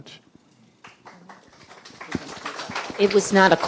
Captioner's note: audience clapping